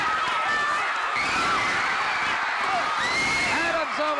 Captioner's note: audience cheering